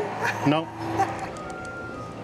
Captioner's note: laughs